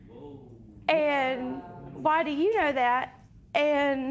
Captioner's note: spectators murmur